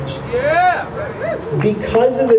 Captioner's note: crowd member shouts: "yeah!"